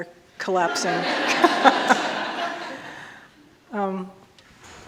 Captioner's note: all laughing